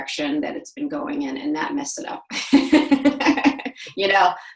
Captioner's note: laughs